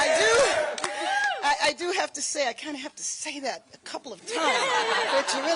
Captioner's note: applause